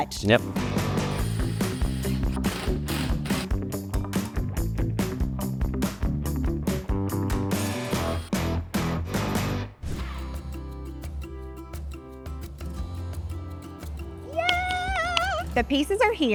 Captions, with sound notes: - Yep. (upbeat music) (tool whirring) (screen whooshing) - Yay, the pieces are here